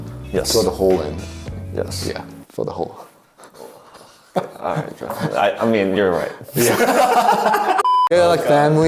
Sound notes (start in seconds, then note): 4.3 both laugh; 7.8 electronic bleep